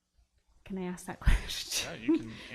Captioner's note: laughs